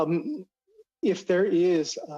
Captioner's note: speaking Indigenous Language